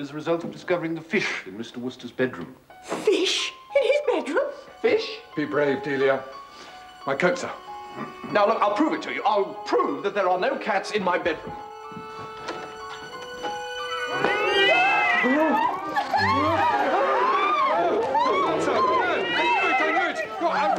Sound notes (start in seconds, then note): 13.8 miaowing; 16.3 screams